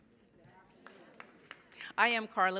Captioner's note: crowd